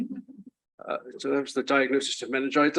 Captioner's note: chuckles